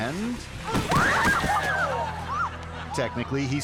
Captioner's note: rider crashing; spectators yelling